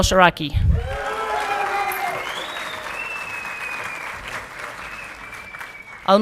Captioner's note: audience clapping and cheering